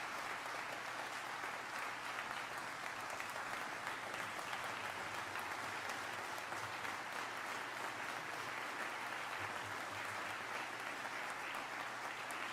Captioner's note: applause